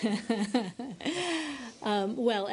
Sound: laughter

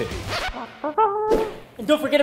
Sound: vocal trumpet

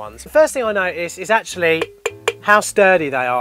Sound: knocks on canister

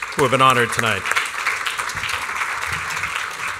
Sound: applause

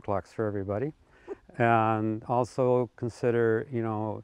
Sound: laughing

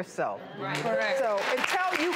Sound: audience applauds

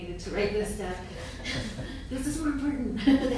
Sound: laughing

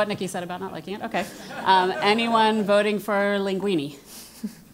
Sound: laugh

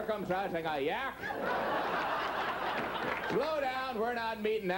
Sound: audience laughing

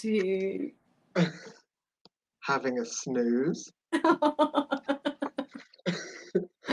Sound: giggles

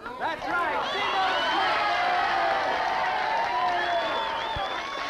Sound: party goers cheering

